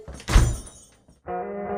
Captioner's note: door slams